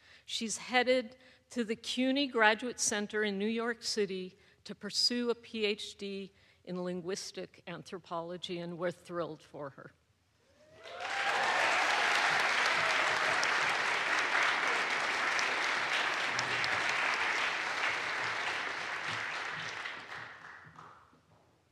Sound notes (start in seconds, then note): 10.7 audience cheers; 10.8 audience applauds